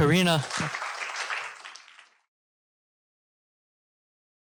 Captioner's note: applause